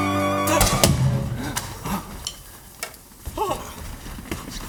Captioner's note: gunshot. MUSIC out